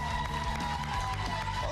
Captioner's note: cheers and applause